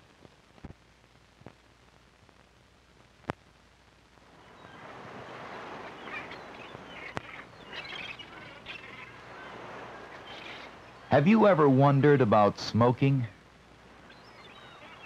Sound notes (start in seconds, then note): 5.0 seagulls calling and waves crashing